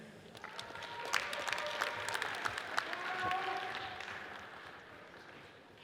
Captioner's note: audience cheers and applauds